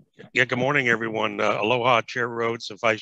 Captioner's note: speaking in foreign language